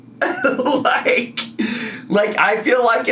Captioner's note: laughs